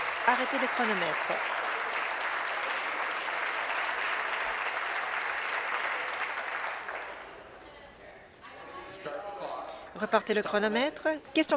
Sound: applause

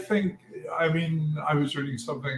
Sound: laugh

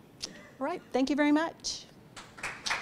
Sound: audience applause

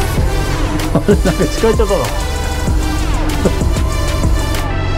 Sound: laughs

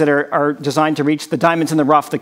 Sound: none

